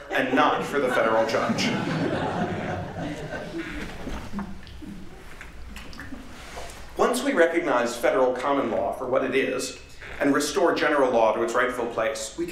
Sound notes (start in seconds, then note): 3.5 laughter